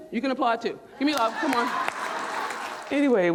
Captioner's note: audience clapping